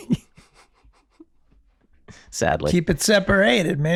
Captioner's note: Glenn chuckling